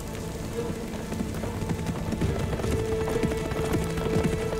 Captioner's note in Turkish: At nalı sesleri